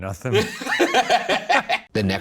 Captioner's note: Shane and Ryan laughing